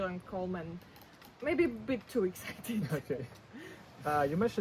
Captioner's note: laughs